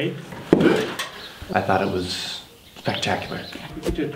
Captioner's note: bonk